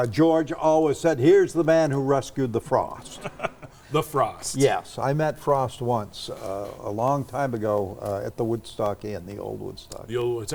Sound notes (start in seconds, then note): 3.1 laughs